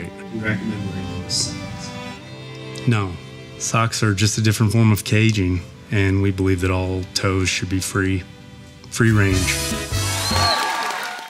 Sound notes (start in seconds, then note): 9.0 upbeat music; 10.0 audience cheers